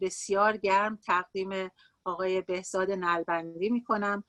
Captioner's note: speaking Farsi